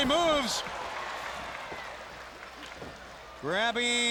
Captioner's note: crowd clapping